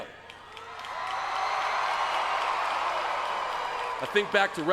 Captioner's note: crowd cheering